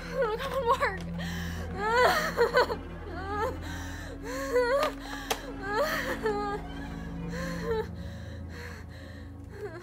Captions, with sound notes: Come on, work. (Stephanie whimpers)